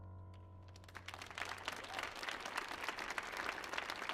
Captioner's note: audience clapping